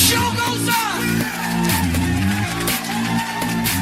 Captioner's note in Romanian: Aplauze